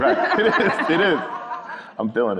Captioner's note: everyone laughing